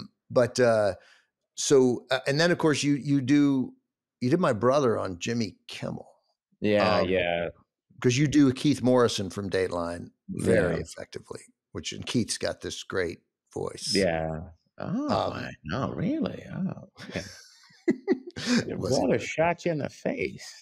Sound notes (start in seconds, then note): 14.3 mimics keith morrison